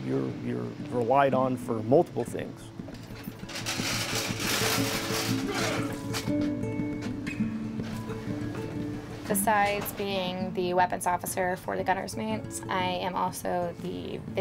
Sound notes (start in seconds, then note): 3.0 slop bucket being moved; 6.5 light music